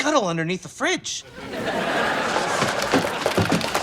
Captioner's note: laughs